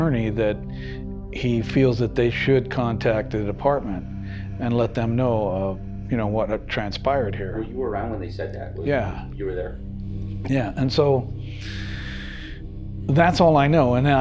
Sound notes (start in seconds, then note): 7.2 chuckles